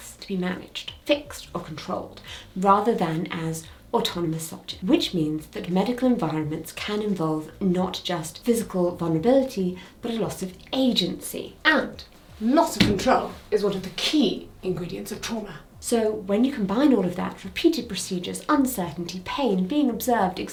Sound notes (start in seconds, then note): 12.7 stick thuds